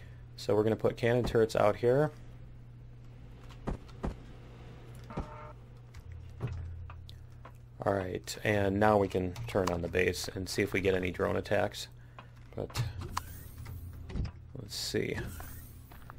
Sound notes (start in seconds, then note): 5.2 turret turning